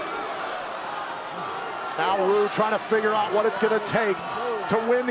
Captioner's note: crowd cheering